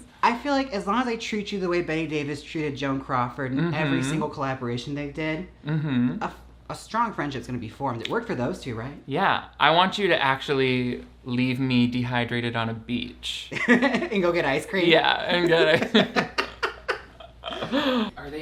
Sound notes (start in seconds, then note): 13.4 laughs; 15.4 both laugh